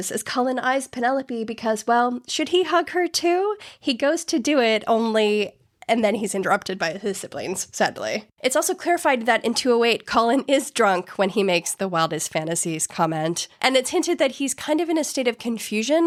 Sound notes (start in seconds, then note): none